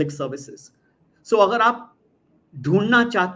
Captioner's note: non-english speech